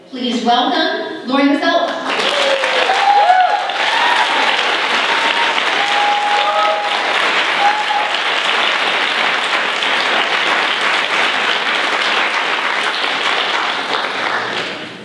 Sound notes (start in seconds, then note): 1.9 applause